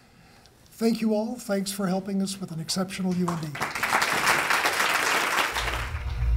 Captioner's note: applause